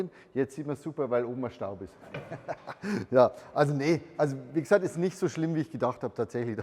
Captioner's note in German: hehehe